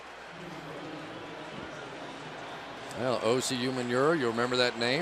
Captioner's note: pa announcement